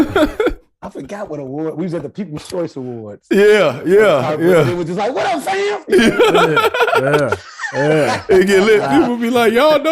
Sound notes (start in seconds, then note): 5.8 laughing